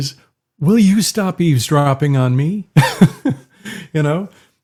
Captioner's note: laughs